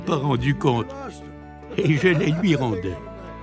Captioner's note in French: rires